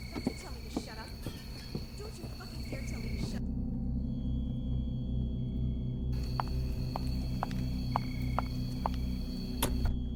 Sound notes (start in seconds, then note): 4.4 insects chirping; 7.1 dramatic music